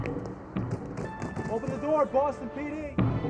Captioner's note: banging